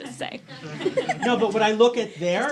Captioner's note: laughing